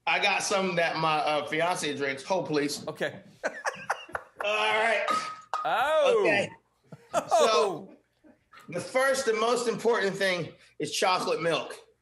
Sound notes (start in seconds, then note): 3.4 laughing; 7.0 laughing; 7.1 bottles chinking